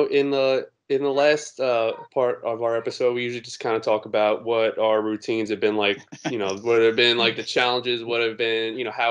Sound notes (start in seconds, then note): 6.3 laughs